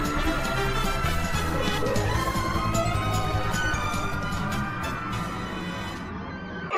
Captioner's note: screaming